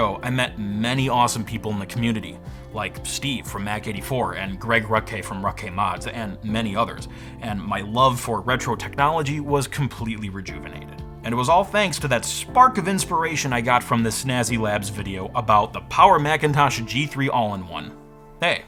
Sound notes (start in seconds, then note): none